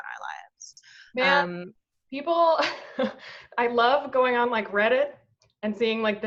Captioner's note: laughs